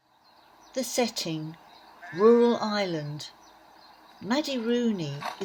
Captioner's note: rural sounds in background - birdsong, sheep etc